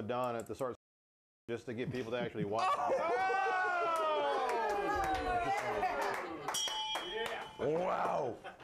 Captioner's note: bell rings